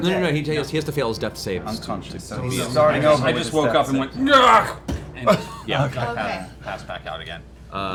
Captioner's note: groans